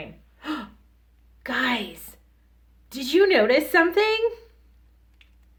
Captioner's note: gasps